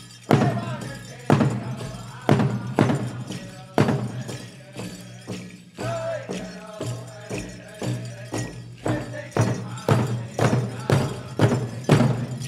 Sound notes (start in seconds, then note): 5.0 regalia ornaments jingling; 8.0 drum beating gently then intensely